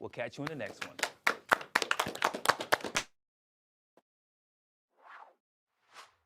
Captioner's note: applause